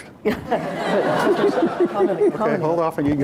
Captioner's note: laughter